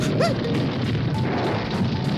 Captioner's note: gasps